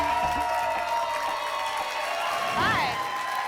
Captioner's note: applause and cheering cont